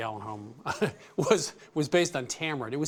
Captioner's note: chuckling